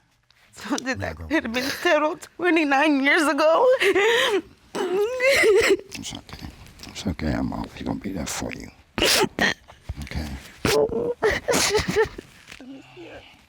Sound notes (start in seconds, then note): 3.6 sobbing; 10.7 continues sobbing; 10.7 sobbing